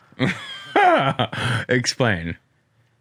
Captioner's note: laughs